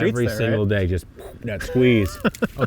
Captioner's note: imitates popping; laughs